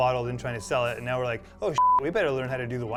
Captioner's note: beep